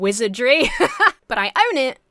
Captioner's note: laughs